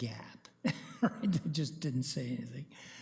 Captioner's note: chuckles